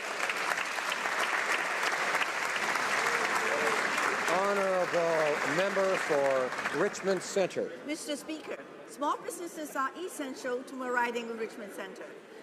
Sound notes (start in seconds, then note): 6.6 some Applause